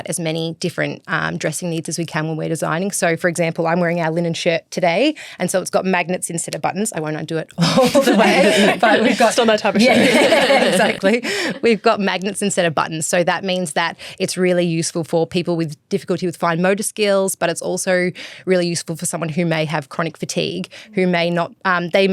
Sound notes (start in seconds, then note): 7.6 everyone laughs; 10.5 laughs